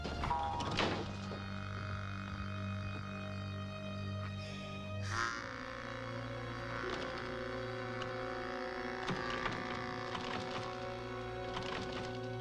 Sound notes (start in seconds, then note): 0.0 door thumps; 6.9 doorknob rattling